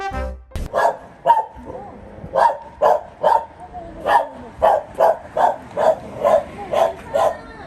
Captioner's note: barking sounds